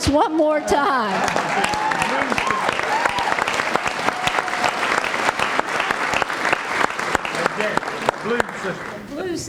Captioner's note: applause